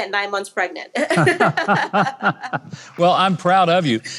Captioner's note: laughs